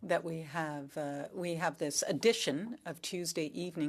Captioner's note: speaking French